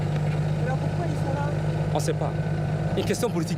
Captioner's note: speaking foreign language; interviewer speaking foreign language; speaking foreign language